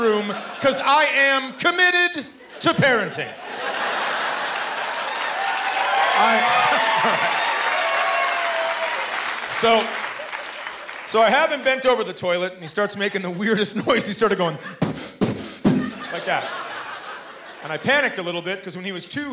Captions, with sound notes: 'cause I am committed to parenting. [cheering and applause] So... So I have him bent over the toilet, and he starts making the weirdest noises. He started going... [spitting] like that. And I panicked a little bit 'cause when he was two, he had asthma.